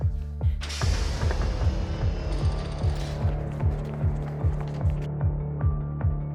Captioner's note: clanking; whooshing